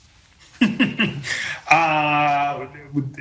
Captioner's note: laughs